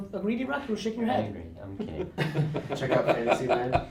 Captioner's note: laughter